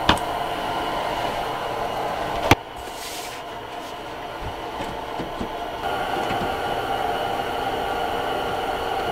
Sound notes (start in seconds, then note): 3.7 dirt rustling